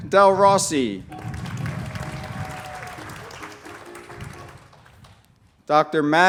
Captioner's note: applause